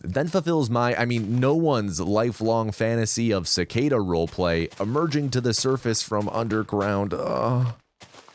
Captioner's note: moans